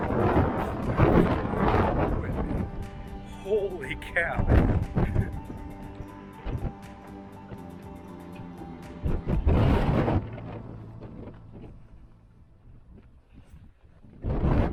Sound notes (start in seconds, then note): 4.9 laughing; 11.1 victorious wooo